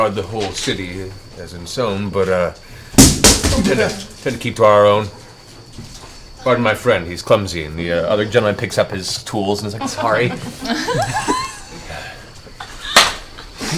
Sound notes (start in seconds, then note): 3.0 off-screen crash